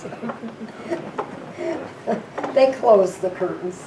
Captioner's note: laughing